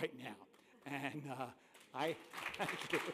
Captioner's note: applause